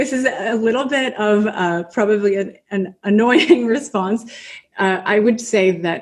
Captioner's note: laughs